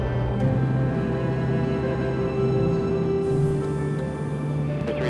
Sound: wind

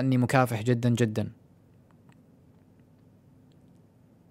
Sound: silence

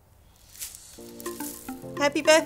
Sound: confetti rustling; upbeat music

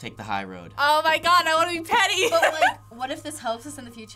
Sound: laughing

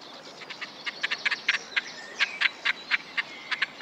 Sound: cackling

